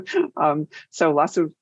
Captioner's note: laughs